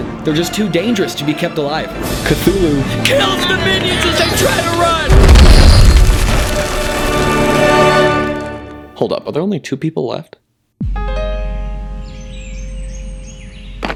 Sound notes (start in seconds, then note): 5.1 stomp